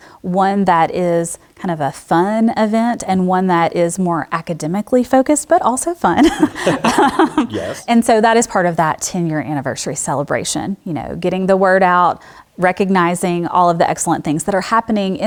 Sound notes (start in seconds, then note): 6.2 laugh